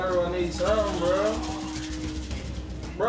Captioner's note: rattling